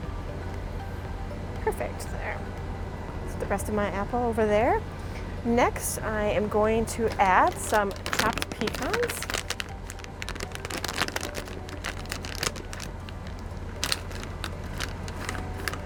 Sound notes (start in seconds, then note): 10.0 bag crinkling; 10.0 soft music